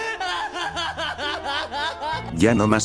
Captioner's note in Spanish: risas